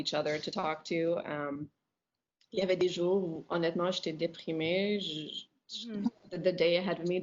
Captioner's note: speaking in French